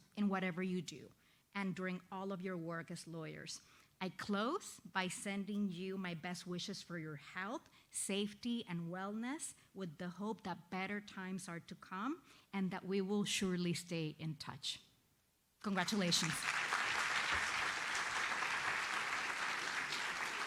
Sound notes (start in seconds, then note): 15.7 audience applauds